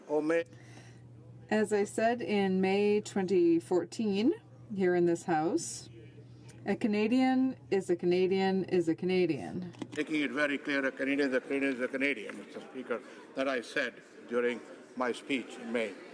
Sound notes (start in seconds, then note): 2.8 speaking Alternate Language